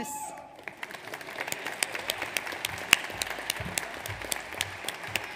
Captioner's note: audience applauds